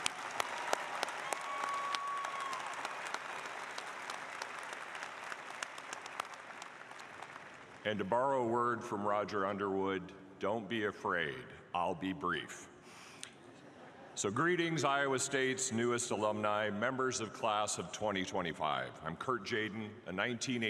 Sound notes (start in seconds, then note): 6.7 applause